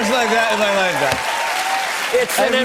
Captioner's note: cheers and applause; normal voice